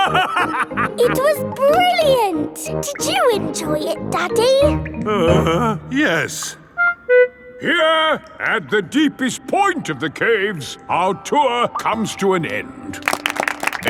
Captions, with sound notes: (LAUGHING) It was brilliant! Did you enjoy it, Daddy? (GROANS) Yes. Here, at the deepest point of the caves, our tour comes to an end.